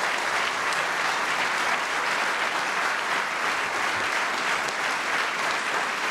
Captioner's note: applause